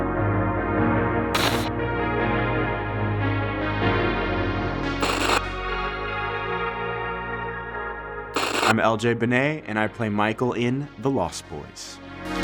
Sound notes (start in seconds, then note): 1.4 static crackling; 8.3 static crackling